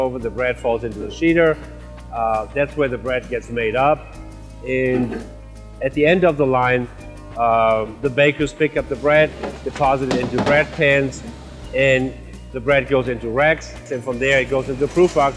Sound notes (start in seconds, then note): 8.9 molds slamming